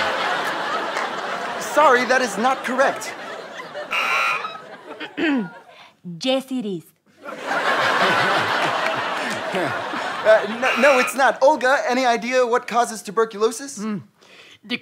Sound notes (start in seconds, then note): 3.9 buzzer; 5.1 clears throat; 7.2 audience laughter; 9.6 chuckles